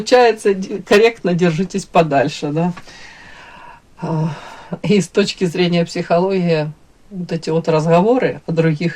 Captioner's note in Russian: вздыхает